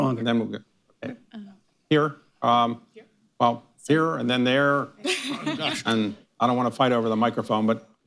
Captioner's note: laughter